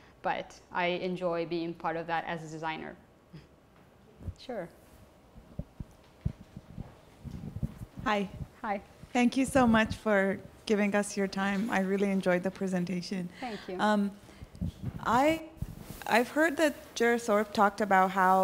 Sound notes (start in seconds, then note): 8.2 voiceover; 14.9 voiceover